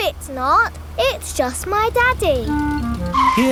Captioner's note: vehicle approaching